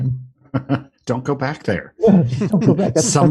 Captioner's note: laughs